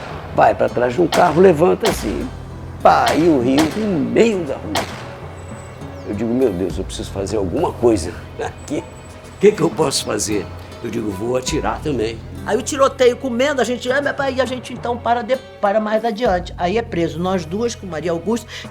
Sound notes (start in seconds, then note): 2.9 gunshots